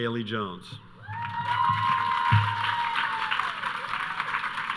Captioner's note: audience cheering